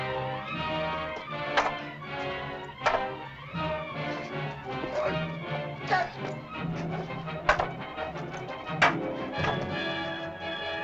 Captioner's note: suspenseful music; staffs bang; suspenseful music